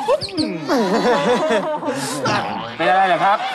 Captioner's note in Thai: หัวเราะ; เสียงร้อง